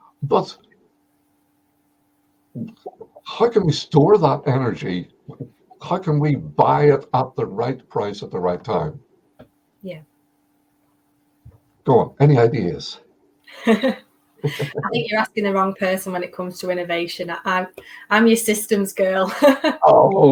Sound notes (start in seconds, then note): 14.4 chuckling